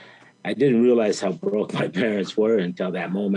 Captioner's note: chuckles